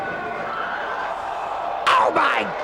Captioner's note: spectators exclaiming